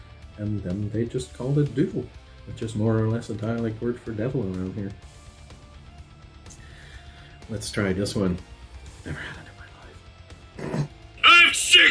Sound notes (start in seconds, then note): 10.6 snorting chuckle